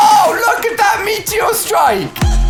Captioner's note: oooohh